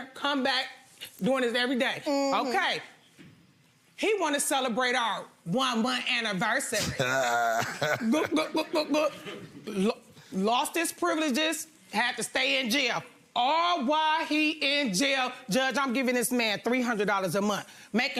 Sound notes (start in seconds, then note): 6.9 chuckles; 8.7 gulps